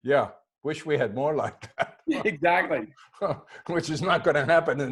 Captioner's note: laughing